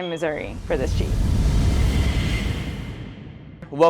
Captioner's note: logo rumbles